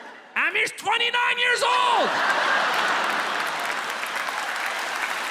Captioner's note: audience laughs